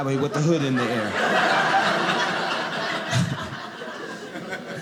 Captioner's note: audience laughing